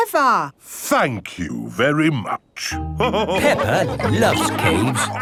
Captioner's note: all laughing